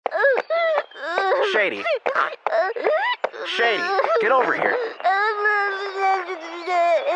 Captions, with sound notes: (crying) Stool! Stool! get over here! asajhswgjhwagredkjhwsfljshfd